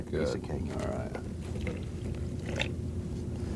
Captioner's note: pouring noises